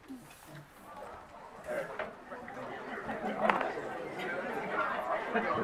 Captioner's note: attendees chatting indistinctly